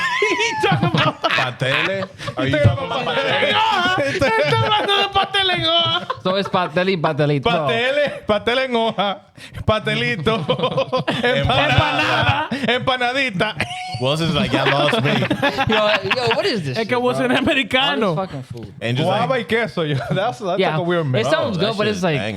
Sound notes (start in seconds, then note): 0.0 laughing; 0.0 speaking In Foreign Language; 0.0 laughing; 0.2 speaking In Foreign Language; 15.8 laughing; 16.8 speaking In Foreign Language; 19.6 speaking In Foreign Language